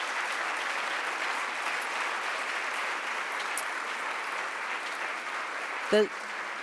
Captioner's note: applause